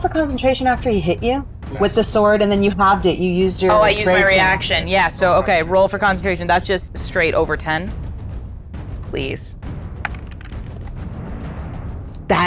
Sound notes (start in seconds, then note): 5.3 speaking faintly